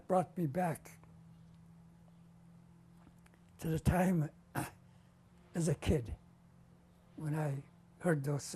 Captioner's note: pauses for 3 seconds